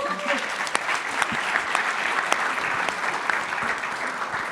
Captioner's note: audience clapping